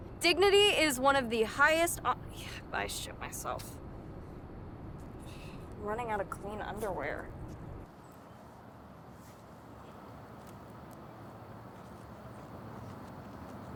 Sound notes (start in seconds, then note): 9.7 faint traffic noise